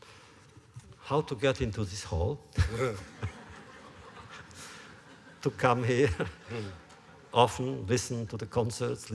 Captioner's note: laughter